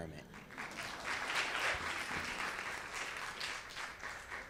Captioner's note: audience claps